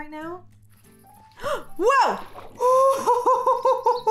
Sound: gasps

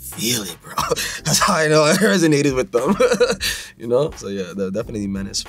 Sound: laughs

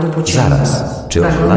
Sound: railway Station Announcement

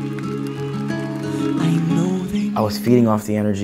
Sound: crowd cheering; gentle music

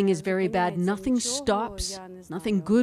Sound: speaking Foreign Language

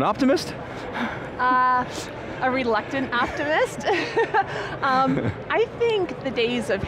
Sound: laughs

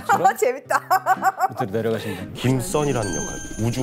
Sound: ha ha ha ha ha

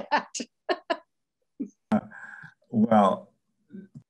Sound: laughing

